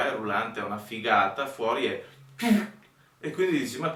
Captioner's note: humphff